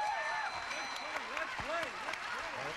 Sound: audience applauding

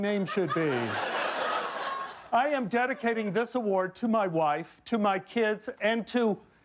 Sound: laughter

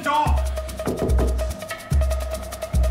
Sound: knocking continues

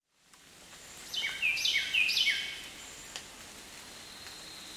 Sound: birds chirping

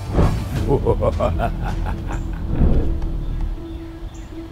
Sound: evil laughter

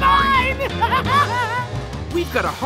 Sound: laughing

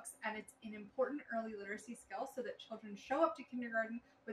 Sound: none

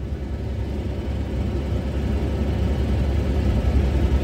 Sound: wind noise

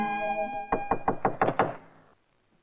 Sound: knock On Door

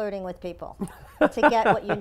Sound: laugh

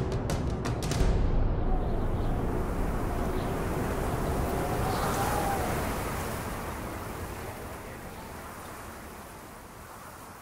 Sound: wind blowing

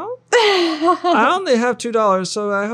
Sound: laughing

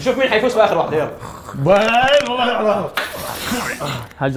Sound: mumbling

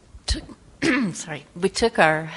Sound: clears throat

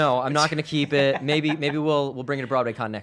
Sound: laughs

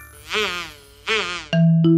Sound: snoring

